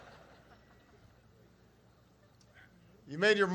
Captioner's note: laughter